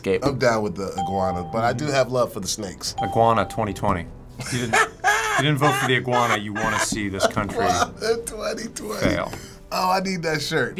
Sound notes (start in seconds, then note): 4.3 cracking up